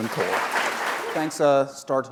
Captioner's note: applause